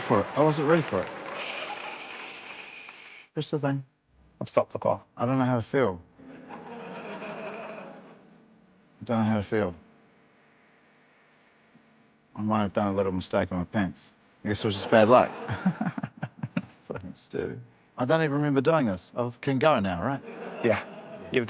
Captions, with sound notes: - I wasn't ready for it. I wasn't ready for it. Shh. Press the thing. - I've stopped the clock. - I don't know how to feel. I don't know how to feel. I might have done a little mistake in my pants. I guess it was just bad luck. (GIGGLES) (MUTTERS) I don't ever remember doing this. I can go now, right?